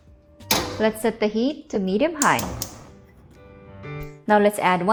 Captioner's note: clicks stove